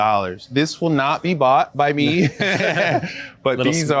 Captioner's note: laughs